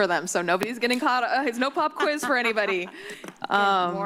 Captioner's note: laugh